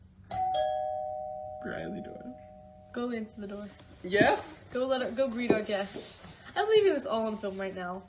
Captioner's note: doobell rings